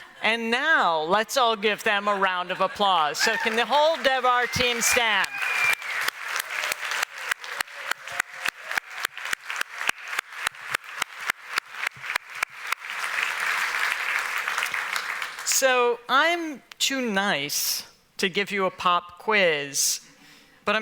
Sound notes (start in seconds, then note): 4.4 whistles; 5.6 applause